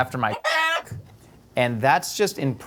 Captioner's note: rooster crowing